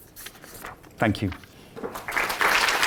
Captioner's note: applause